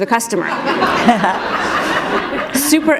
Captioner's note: laughter